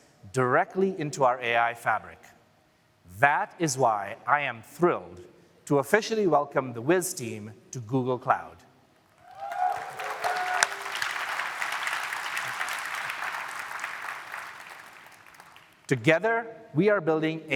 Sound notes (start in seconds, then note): 13.0 applause